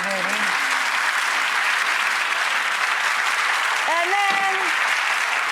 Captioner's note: audience applauds